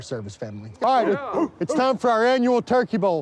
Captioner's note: firefighters chanting